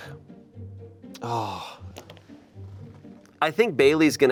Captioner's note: sighs